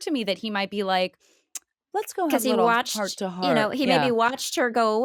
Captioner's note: clicks tongue